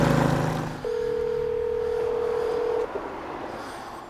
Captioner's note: phone ringing